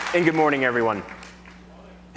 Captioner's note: applause